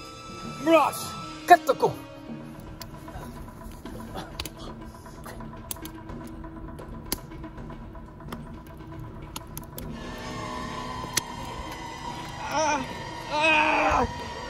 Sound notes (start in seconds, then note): 0.6 foreign speaking